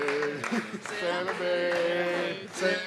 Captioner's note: applause